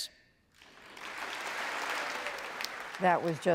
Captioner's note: congress applauding